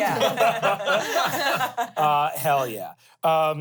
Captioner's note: everyone laughs